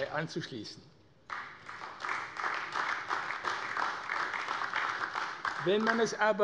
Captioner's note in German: Beifall AfD